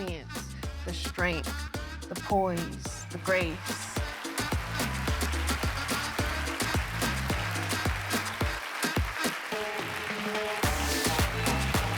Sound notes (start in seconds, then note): 4.5 applauding; 7.0 house music continues